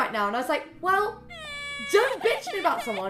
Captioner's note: crying sfx